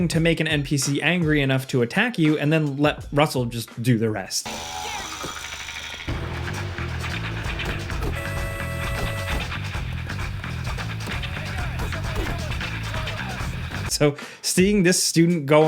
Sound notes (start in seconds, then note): 6.0 upbeat music; 7.7 car honks